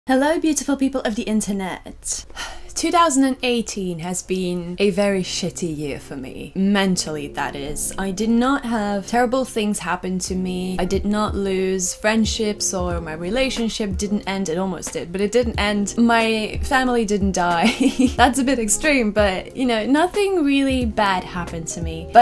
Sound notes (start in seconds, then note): 2.4 sigh